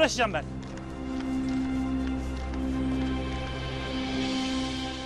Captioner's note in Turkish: Ayak sesleri